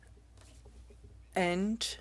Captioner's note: speaking french